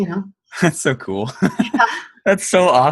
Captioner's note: laughs